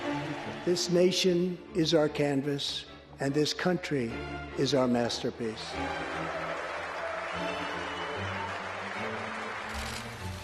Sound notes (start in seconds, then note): 5.7 applause